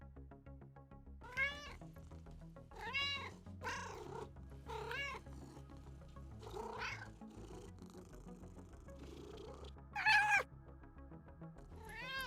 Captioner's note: cat Noises